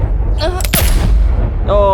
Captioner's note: groan; gunshot sound